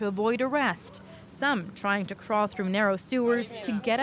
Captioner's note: speaking foreign language